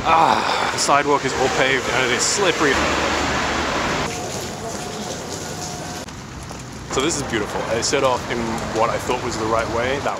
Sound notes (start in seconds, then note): 3.7 rain pattering